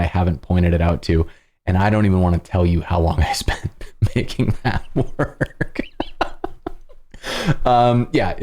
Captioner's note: laughter